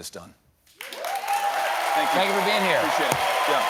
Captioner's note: cheers and applause